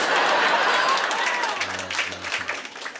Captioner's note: laughter and applause